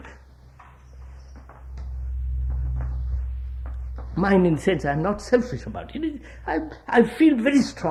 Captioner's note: laughs